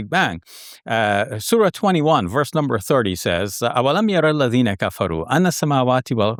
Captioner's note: speaking Arabic